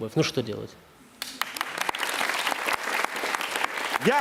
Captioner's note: cheering